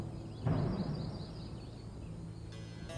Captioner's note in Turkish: Kuş cıvıltısı sesleri